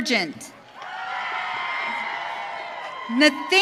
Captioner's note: audience cheering